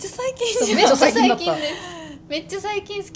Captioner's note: laughs